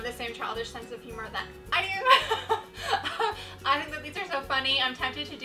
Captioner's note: laughs